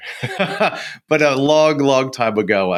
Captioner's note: laughs